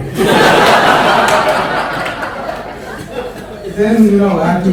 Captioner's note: audience laughs